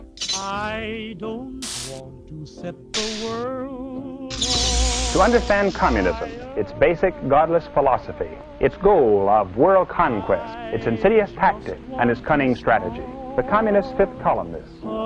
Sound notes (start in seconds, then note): 4.2 television